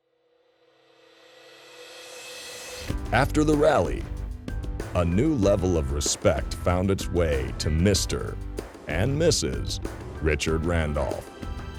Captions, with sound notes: - [Voiceover] After the rally, a new level of respect found its way to Mr. and Mrs. Richard Randolph.